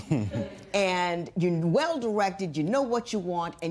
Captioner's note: laughter